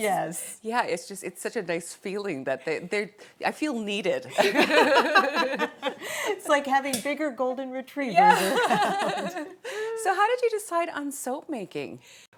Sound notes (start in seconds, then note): 4.4 laughing; 8.2 laughing